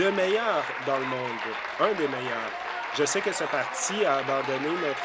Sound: applause

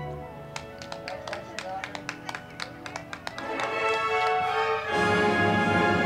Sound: band music; crowd clapping

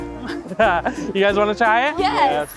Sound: laughs

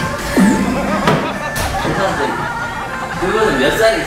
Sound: laughter

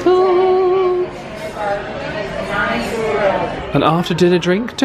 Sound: guests chattering

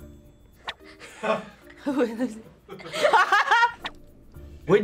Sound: FBE laughs; laughs

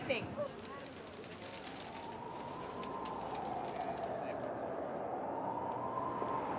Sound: sirens sound

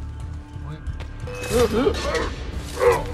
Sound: hidden blade stabbing sound

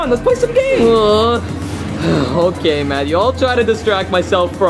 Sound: groans

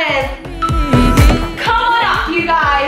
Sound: phone beeping

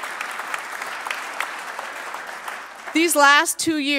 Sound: applause

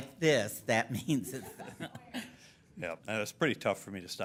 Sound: laughing

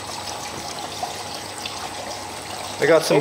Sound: water running

